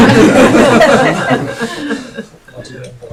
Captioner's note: all laughing